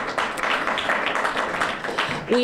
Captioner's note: applause